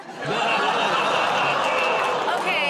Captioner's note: laughter